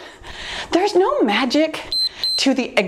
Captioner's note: timer beeps